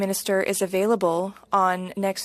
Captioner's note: speaking French